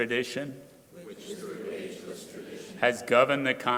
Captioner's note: crowd repeating